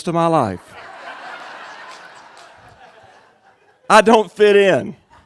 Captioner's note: crowd laughing